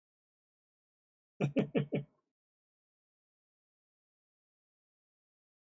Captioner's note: chuckles